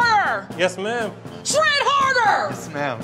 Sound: yells

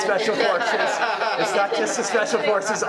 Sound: many laughing

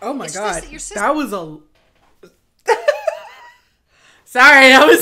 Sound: laughing

